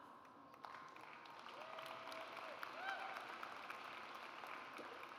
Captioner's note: audience applauds